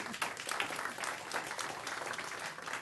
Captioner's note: applause